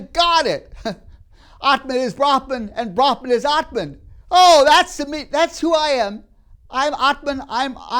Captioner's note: laughs